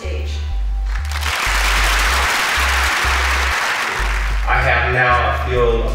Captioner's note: applause